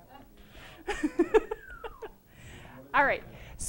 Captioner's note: laughter